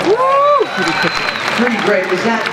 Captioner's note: cheers and applause